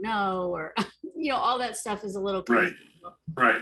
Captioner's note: chattering